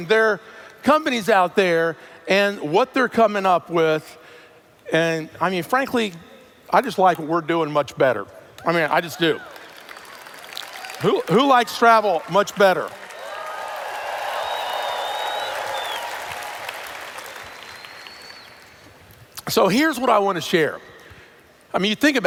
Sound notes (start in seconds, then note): 9.2 applause; 12.8 cheers/Applause